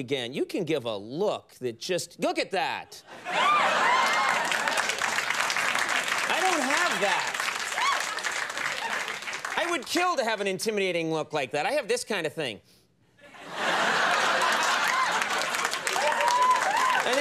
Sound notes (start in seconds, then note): 3.5 audience clapping; 13.2 audience laughing